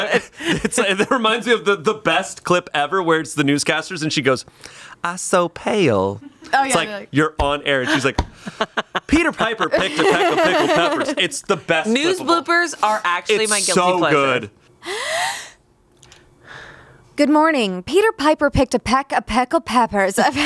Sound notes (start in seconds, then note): 14.8 inhales